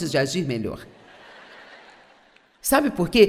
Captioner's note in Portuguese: audiência ri